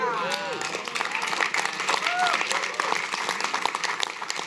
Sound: audience applauds

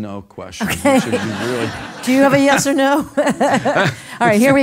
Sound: laugh

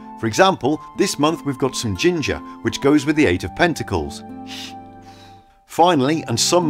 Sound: sniff ginger, phew

